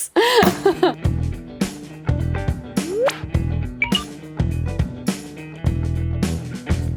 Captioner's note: laughs; funky music; graphic popping